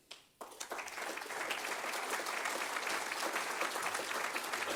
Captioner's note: audience applauds